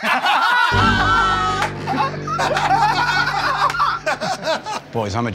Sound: laughter

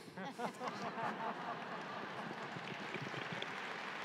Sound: audience laughing; audience applauding

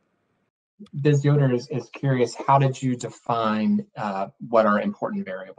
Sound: murmurs

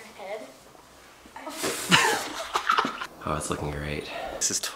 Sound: laughing

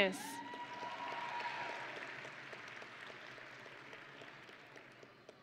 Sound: audience and graduates cheering

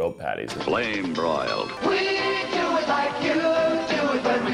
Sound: voiceover

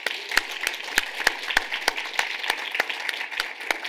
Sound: applause

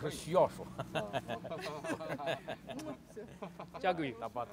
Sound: laugh

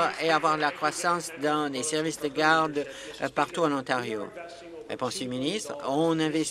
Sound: applause

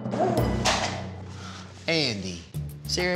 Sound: bowl drops

